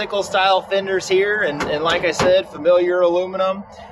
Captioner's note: fender thudding